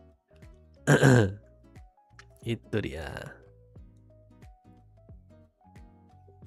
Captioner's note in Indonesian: berdehem